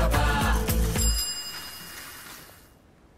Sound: cycle bell rings

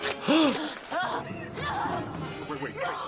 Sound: gasps; Nora groans

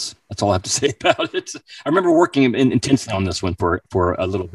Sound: laughing

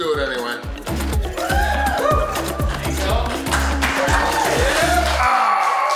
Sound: cheering & Clapping

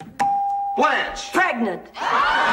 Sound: bell dinging

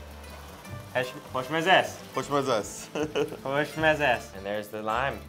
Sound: speaks in foreign language

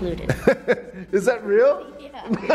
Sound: laughs

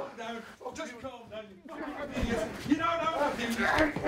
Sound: scuffling and shouting

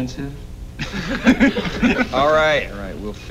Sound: laughter

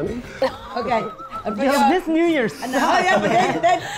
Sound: wheezes

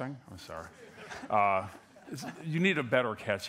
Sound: laughter

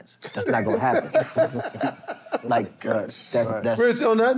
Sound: laughter

